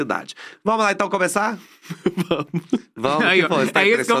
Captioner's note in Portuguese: rindo